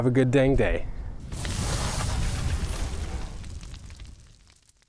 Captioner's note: fire crackling